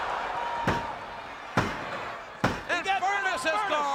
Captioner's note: mat slapping